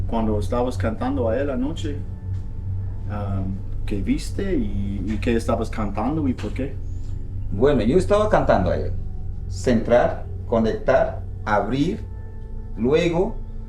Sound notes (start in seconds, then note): 0.2 Daniel speaks in foreign language; 7.7 shaman speaks in foreign language